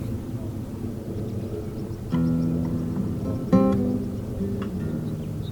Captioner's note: distant sound of the sea